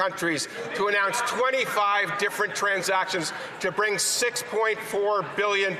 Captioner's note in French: voix de l'interprète